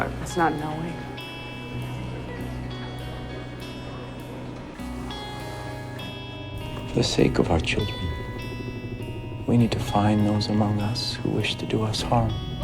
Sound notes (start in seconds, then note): 7.1 voiceover